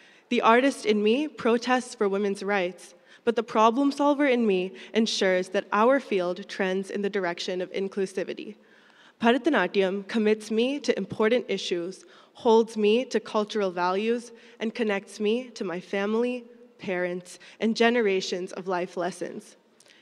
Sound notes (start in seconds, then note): none